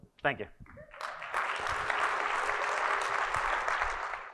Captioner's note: audience laughing and applauding